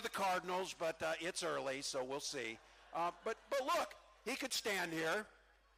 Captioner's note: cheering